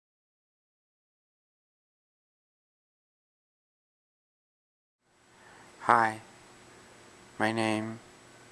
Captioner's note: pause